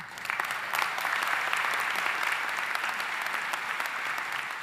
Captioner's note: audience applauding